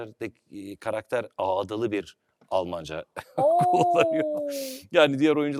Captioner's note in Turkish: kahkaha